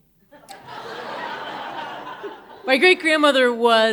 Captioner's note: audience laughing